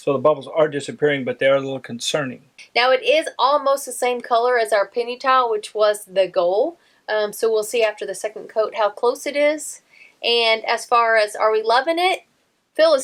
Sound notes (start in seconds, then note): none